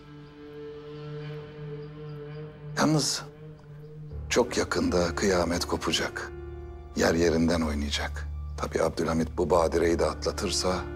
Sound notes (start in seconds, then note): none